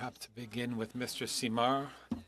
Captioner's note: speaking FRENCH